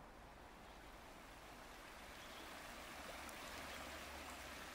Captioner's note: water trickling